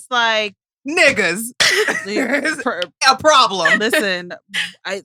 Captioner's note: laughs